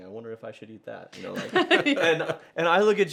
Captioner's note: laughter